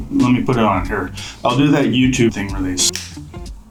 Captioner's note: fingers snap